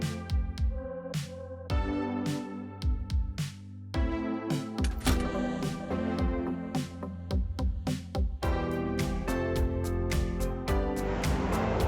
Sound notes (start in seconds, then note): 0.0 upbeat Music; 5.4 turning on light sound